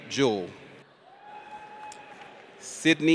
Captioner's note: audience cheers